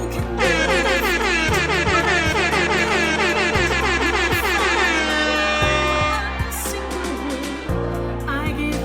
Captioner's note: airhorn blares